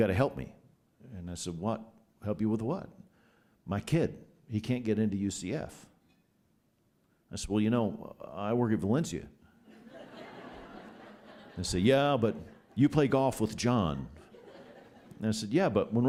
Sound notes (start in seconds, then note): 9.7 laughter